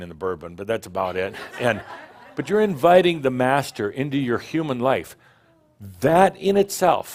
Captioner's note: some laughter